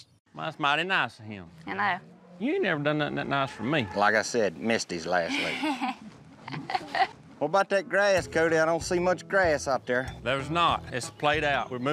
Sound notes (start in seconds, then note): 6.4 chuckles